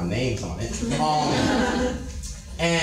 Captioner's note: light audience laughter